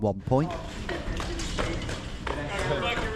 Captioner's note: footsteps thumping